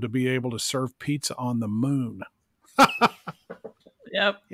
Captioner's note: laughs